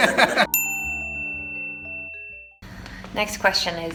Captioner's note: bell dings